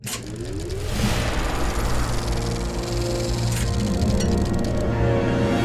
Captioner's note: soft dramatic music; projector whirring